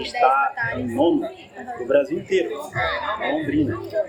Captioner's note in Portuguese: barulho da plateia se dispersando ao fundo